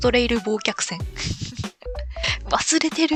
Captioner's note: laughs